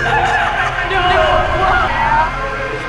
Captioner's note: Michelle's voice distorted